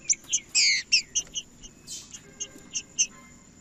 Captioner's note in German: trinca ferro cantando